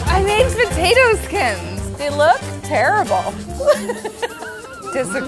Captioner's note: laughing